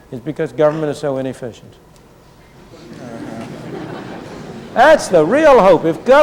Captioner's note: laughter